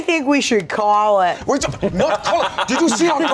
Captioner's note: laughs